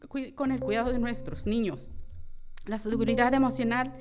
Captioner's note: timer dinging; continues speaking in foreign language